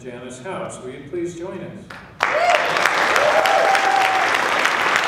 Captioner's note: applause